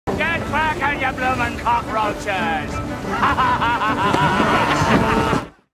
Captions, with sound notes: Get Cracking, Ye Bloomin' Cockroaches! [Laughs]